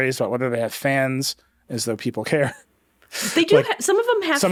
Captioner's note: chuckles